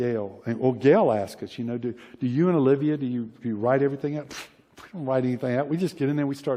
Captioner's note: scoffs